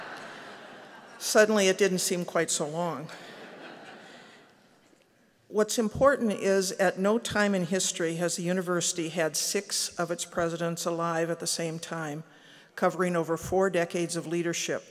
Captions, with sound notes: suddenly it didn't seem quite so long [laughter]. What's important is at no time in history has the university had six of its presidents alive at the same time covering over four decades of leadership.